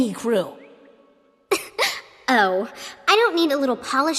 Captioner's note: laughs